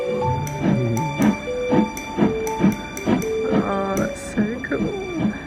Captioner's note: train chugging